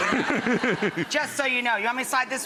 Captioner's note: instructor laughing